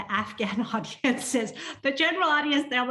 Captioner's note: laughter